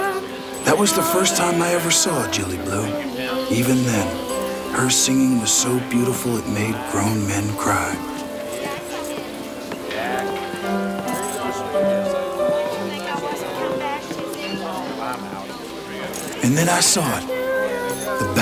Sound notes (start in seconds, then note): 11.6 patrons chatter; 11.6 piano music continues